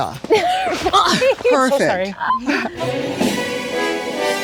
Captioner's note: women laugh; grunts; intense triumphant music